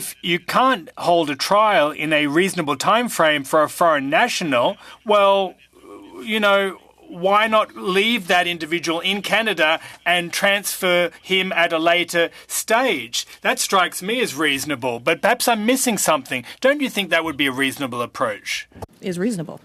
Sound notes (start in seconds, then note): 7.6 speaking French